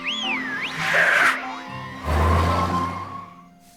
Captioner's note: woman whistles